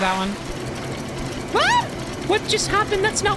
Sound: scream

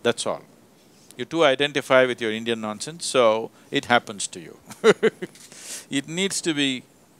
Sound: laughs

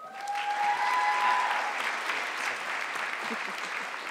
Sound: audience clapping

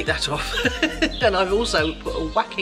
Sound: laughs

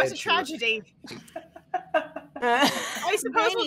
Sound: all laughing

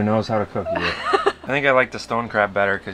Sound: laughing

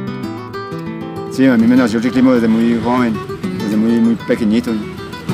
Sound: foreign language

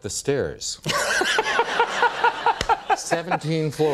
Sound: laughter

